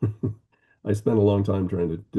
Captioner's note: laughing